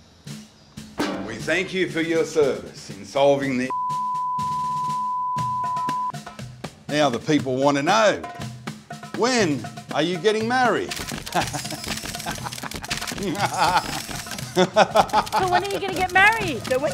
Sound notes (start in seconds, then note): 11.1 laughs